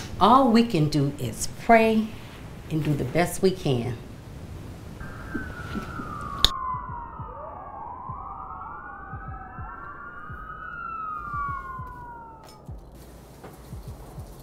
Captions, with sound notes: All we can do is pray and do the best we can. (sirens blaring) (light beat music)